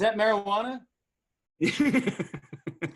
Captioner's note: laughter; laughing